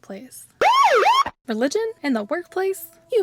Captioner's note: siren noise